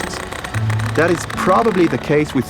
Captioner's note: tool clacking